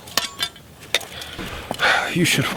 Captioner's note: sighs